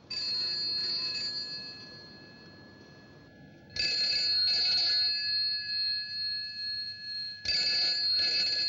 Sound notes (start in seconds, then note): 5.0 continues Ringing